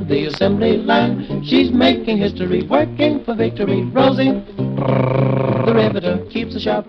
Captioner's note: trilling an R sound